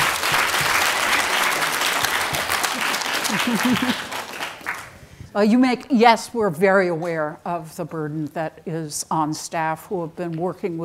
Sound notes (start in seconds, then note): 3.2 chuckles